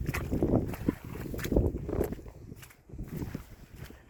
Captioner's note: squelching underfoot